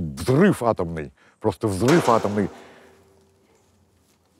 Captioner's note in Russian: раздается грохот